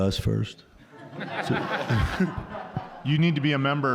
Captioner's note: all laughing